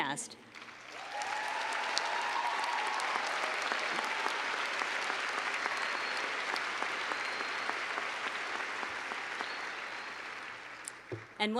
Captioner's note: cheers and clapping